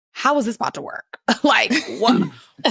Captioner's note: chuckling